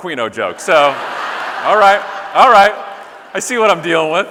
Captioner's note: audience laughing